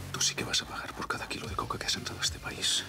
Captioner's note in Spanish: susurra